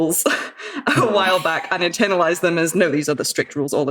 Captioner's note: laughs